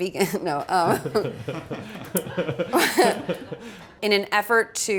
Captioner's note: chuckle